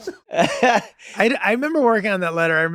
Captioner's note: all snickering; Glenn laughs